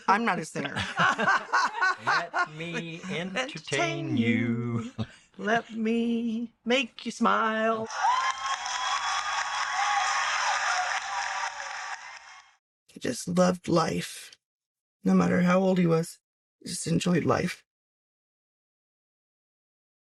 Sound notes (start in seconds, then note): 7.8 audience applauding